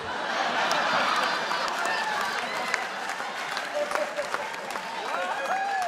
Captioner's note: audience cheers and applauds